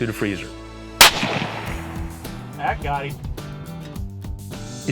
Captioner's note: gunshot